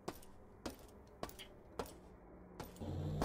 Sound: footsteps

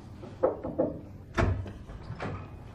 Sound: knocking, door opening

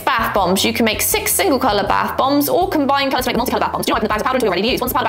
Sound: sped-up talking

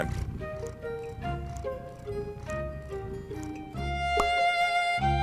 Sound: Zoe, the cat, purring; outro Music

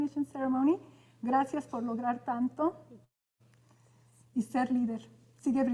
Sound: speaking in Spanish

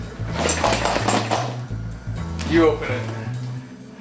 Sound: contents jingling

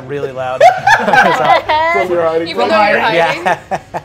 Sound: players laughing

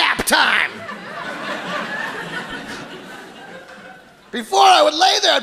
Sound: audience laughs

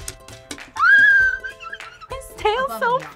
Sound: squeaks

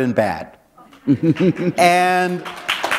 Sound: chuckle; applause

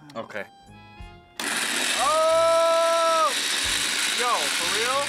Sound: blender whirring

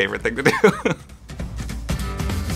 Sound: laugh

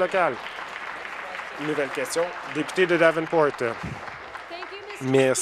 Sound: applause

